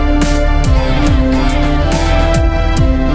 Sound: Minions Chanting

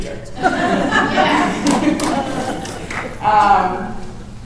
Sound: laughter

